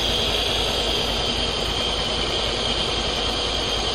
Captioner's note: vest machine vibrating and nebulizer running